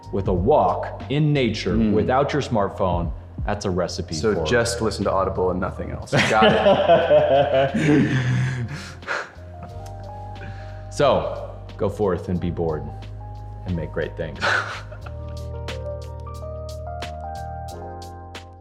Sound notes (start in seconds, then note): 6.1 man laughing; 15.3 mellow ambient music